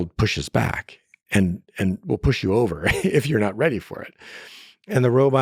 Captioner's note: laughs